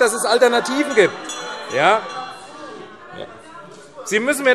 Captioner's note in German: Lebhafte Zurufe BÜNDNIS 90/DIE GRÜNEN - Glockenzeichen